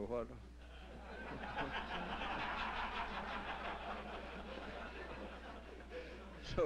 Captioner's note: laughter